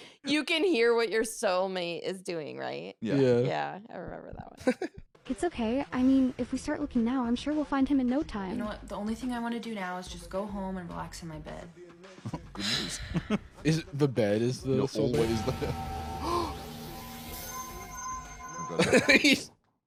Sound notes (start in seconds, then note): 16.6 gasps; 18.8 laughing